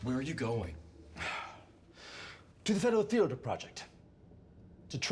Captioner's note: sighs